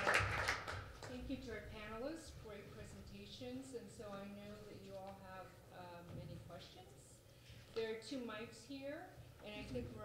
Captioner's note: applause